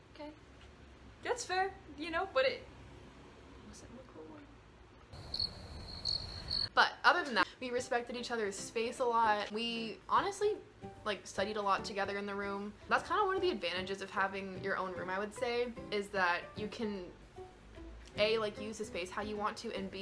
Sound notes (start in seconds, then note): 5.1 cricket sounds